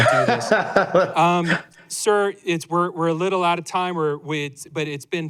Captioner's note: laughter